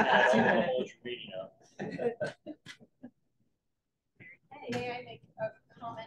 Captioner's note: laughter